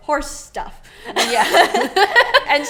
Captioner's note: laughs